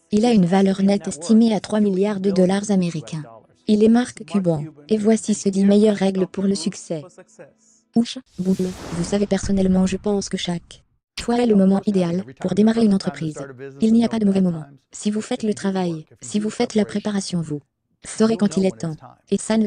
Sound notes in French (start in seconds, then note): 8.3 whoosh; 8.4 boum